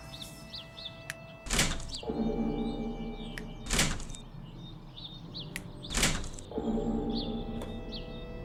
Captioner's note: locking sound and cloister bell ringing; snapping fingers